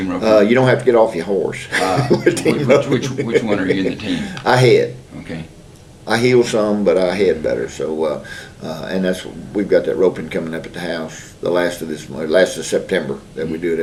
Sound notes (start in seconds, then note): 1.7 laughs